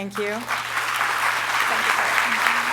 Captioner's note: applause